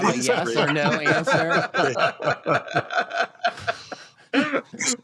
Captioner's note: laughter